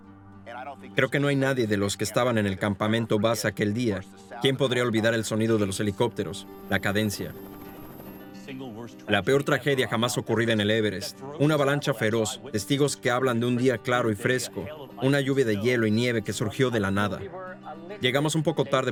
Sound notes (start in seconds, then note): 6.3 helicopter whirring; 7.3 disquieting music